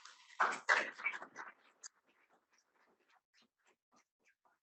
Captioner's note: audience claps